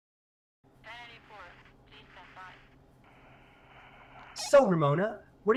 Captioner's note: radio chatter